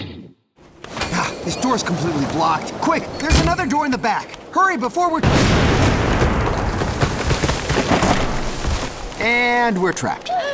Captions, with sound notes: This door's blocked. There's another door in the back. Hurry, before we-- [thunder clap] [creaking] [crash] And we're trapped.